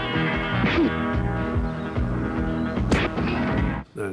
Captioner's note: twangy music; punches landing